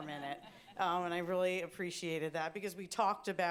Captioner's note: laughter